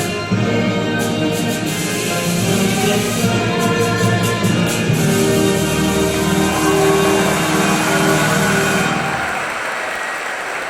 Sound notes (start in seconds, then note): 5.2 room applauds